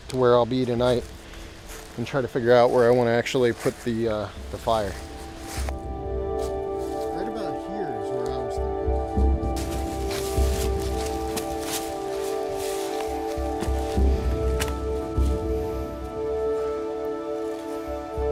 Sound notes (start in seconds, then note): 5.8 soft music; 10.4 leaves crunching